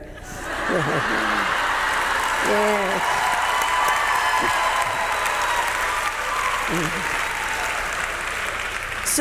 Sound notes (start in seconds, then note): 0.1 audience members laughing; 2.6 audience members cheering; 2.6 audience members clapping